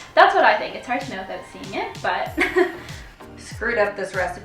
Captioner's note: laughing